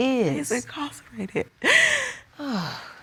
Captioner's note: sobs; sighs